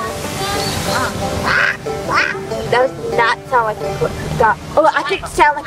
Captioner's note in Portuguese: Fazendo sons de pato